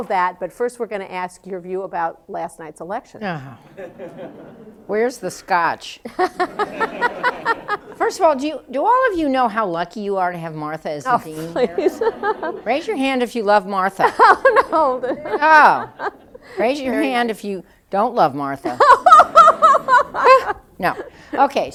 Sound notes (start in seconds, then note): 6.1 laughs; 11.0 laughing; 18.6 laughter